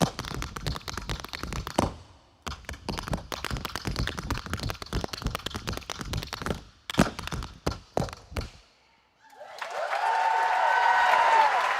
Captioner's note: tap dancing